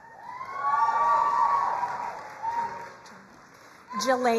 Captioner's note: crowd cheering and applauding